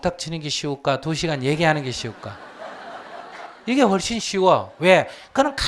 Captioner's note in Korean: 청중 웃음